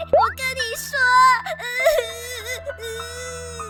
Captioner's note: sobbing